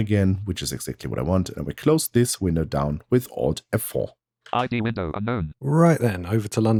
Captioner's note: automated voice